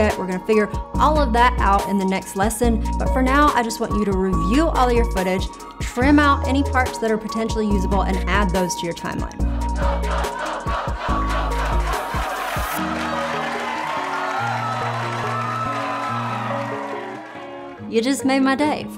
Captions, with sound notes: We're gonna figure all of that out in the next lesson but for now, I just want you to review all your footage trim out any parts that are potentially usable and add those to your timeline. (crowd cheering) (upbeat music)